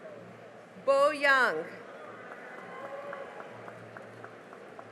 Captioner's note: cheering and applause